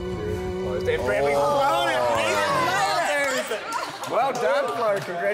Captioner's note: all cheering